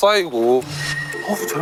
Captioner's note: swoosh